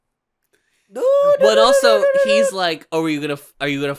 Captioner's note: beeping noises